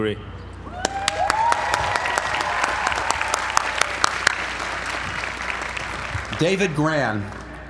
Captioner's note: applause